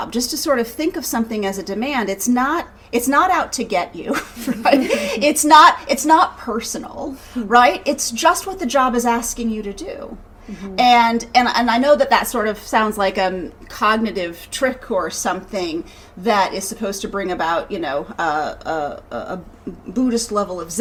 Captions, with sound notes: Just to sort of think of something as a demand. It's not out to get you, (ladies laughing), it's not personal. It's just what the job is asking you to do. And I know that that sort of sounds like cognitive trick, or something, that is supposed to bring about a Buddhist level of Zen.